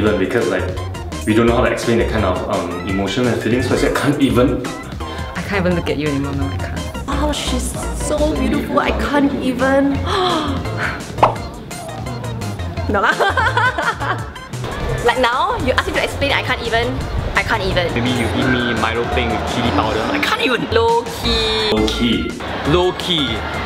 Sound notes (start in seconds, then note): 12.9 laughters